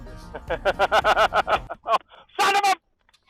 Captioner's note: both laughing